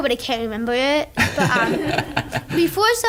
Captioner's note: laughing